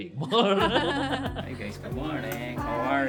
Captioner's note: laugh